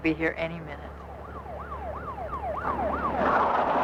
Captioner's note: police sirens in the background